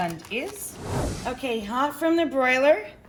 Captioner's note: whoosh